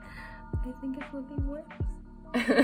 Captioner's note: sad laugh